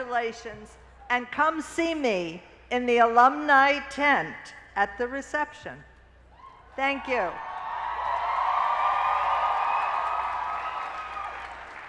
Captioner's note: cheers and applause